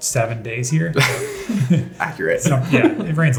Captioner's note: laughs